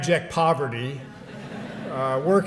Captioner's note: laughter